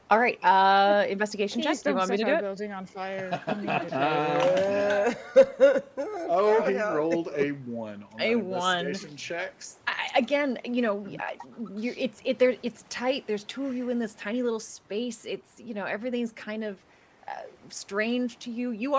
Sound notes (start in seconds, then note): 3.2 people laughing